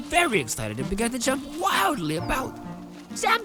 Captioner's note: animal Noises